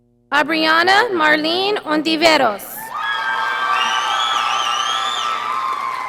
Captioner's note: audience applauding